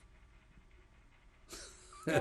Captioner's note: laughs